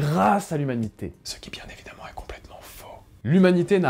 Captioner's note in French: chuchote